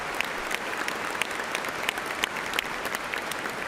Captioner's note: applause